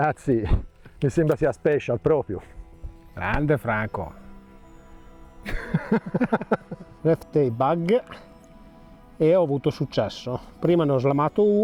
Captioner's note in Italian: risate